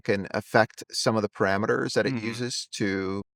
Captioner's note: hums